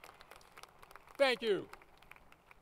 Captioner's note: applause